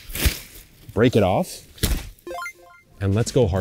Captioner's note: video game beep